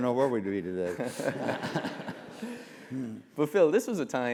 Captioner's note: laugh